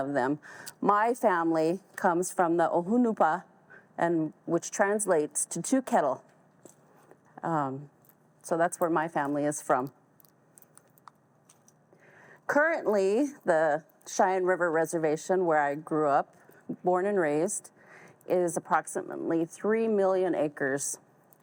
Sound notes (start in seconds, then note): none